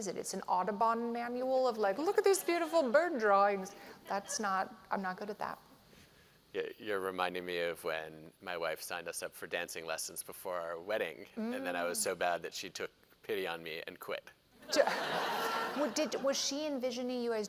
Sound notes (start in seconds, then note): 14.6 laughter